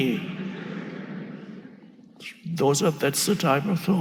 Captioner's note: audience laughing